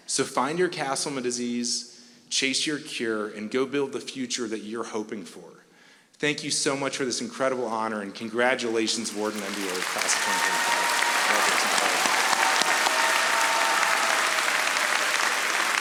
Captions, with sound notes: So find your Castleman disease, chase your cure, and go build the future that you're hoping for. Thank you so much for this incredible honor and congratulations, Wharton MBA Class of 2025. (audience applauding)